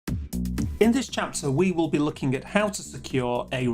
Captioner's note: voiceover